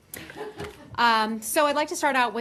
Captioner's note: laughter